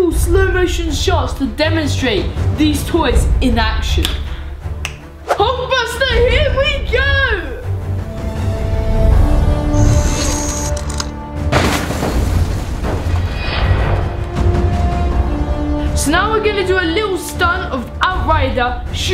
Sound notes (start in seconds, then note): 4.8 snapping; 7.6 dramatic action music; 11.4 crashing